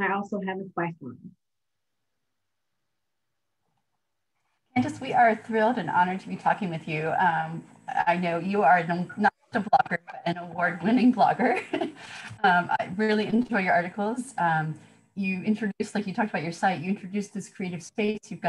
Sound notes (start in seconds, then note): 11.4 laughter